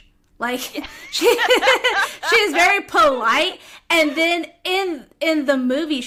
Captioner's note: laughter